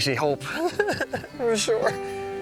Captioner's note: laughing